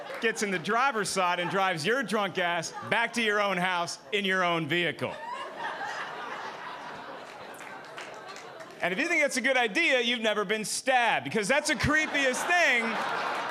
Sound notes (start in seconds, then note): 5.1 audience laughing; 11.9 audience applauding